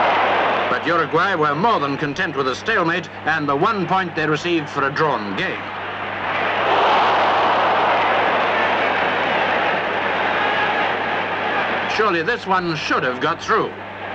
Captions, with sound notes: But Uruguay were more than content with a stalemate and the one point they received for a drawn game. [crowd groan] Surely this one should have got through.